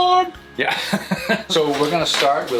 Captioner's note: laughs